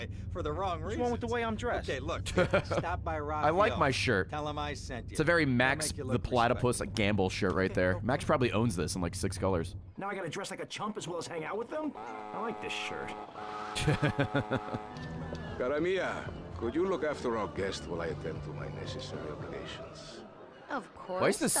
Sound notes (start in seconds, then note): 2.3 laughs; 13.7 laughs